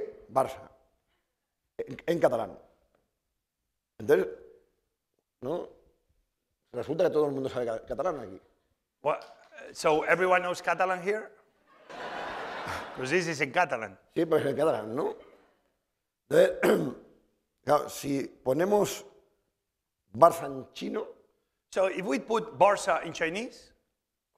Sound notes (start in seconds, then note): 4.0 speaking spanish; 11.6 laughter; 15.0 speaking spanish